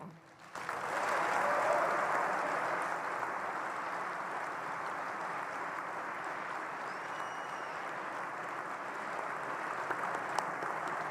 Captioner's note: applause